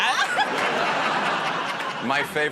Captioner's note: laughter